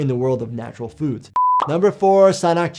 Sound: video beeping

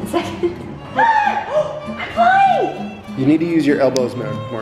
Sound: gasps

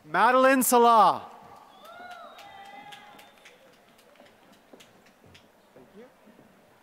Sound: applause

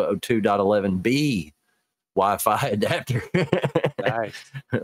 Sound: laughs

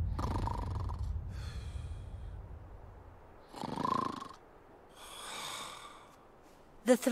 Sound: Kirinmaru Snoring

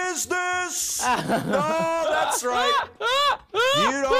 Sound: laughs; laughing

